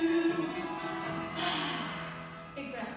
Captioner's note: exhales